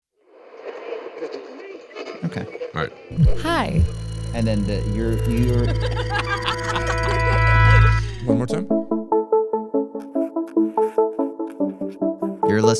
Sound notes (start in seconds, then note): 1.2 people chattering; 5.8 people laughing; 9.8 relaxed music